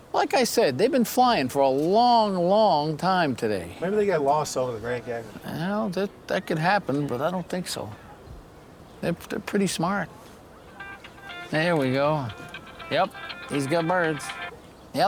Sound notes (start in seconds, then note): 10.6 phone ringing